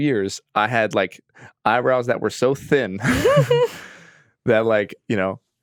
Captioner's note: laughs